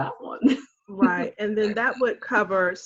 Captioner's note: laughing